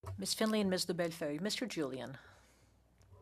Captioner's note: speaking French